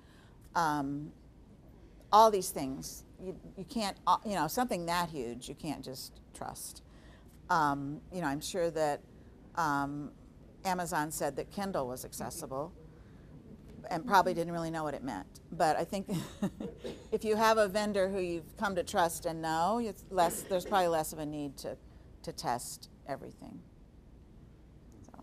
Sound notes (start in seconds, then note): 16.2 chuckling